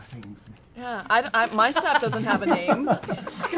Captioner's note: laughter